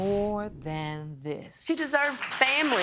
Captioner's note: audience clapping